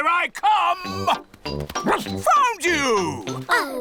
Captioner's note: barks